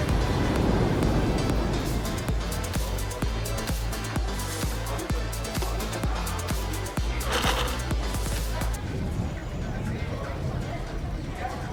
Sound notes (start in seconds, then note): 5.6 ice clinks